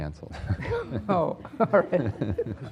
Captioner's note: laugh